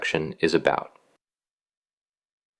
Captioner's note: pause